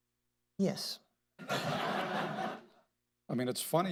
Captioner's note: laughter